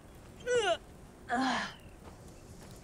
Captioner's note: Clive grunts